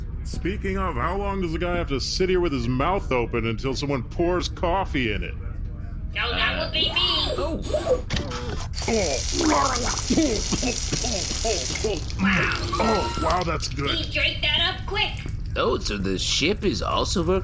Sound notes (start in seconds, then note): 8.8 the ship turns on a full-blast stream of coffee; 12.9 gulping